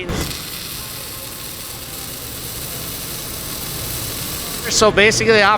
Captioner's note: static noise